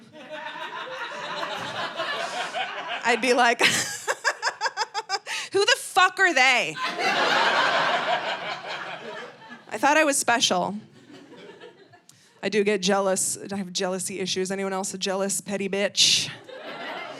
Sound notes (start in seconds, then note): 0.0 audience laughing; 4.5 laughs; 6.7 audience laughing